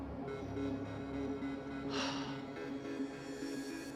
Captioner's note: sighs